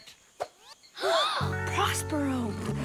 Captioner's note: gasps